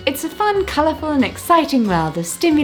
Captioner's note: none